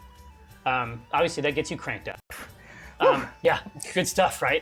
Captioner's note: scoffs